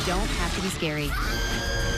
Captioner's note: screaming